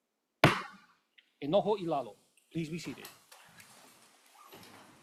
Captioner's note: gavel bangs once